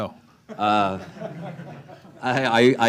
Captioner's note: laughter